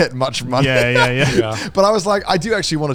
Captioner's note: laughs